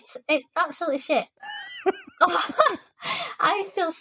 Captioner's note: laughter